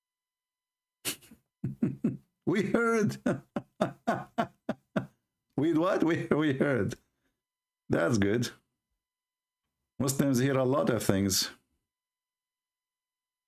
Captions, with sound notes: [Ketawa] baguslah orang islam dengar banyak benda